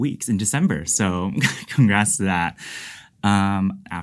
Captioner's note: laughs